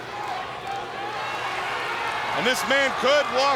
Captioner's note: audience applauds